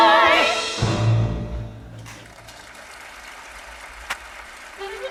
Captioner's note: audience applauding